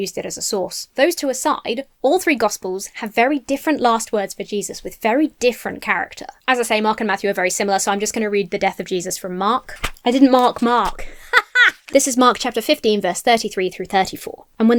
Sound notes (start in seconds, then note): 11.0 laughs self-confidently